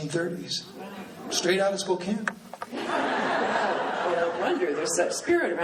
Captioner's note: laughing